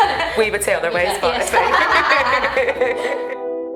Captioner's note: laughs